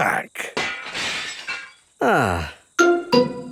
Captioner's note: glass shatters